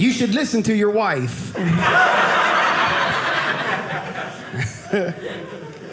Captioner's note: audience laughing